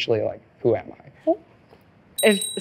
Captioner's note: bell ring